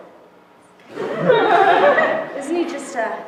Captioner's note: laughter